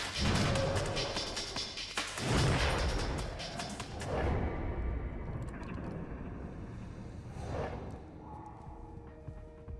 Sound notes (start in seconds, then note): 0.0 upbeat electronic music; 4.2 graphics whooshing